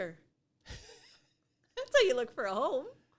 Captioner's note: laughs